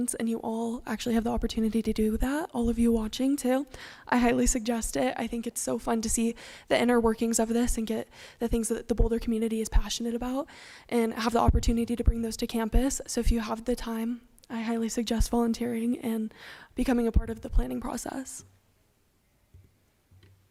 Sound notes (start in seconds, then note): none